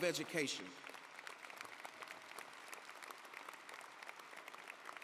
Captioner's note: audience applauding